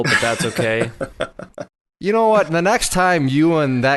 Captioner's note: laughs